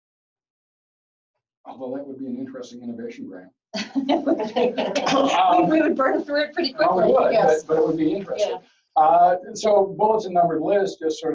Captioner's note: chatter